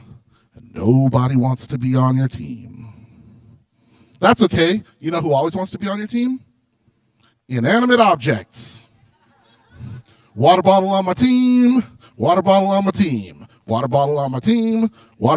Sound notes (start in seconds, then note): 8.8 laughter